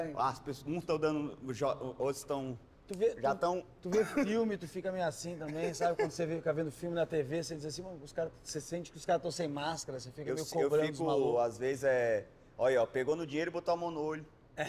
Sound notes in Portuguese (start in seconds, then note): 5.4 risada